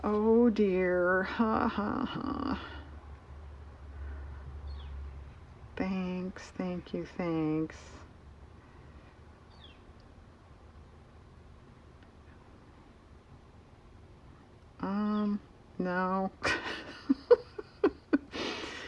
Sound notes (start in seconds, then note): 16.4 laughs